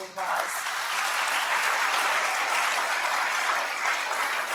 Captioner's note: applause